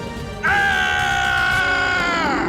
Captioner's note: yelling